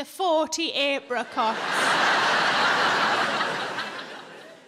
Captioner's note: audience laughing